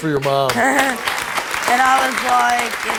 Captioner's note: laughing; crowd applauding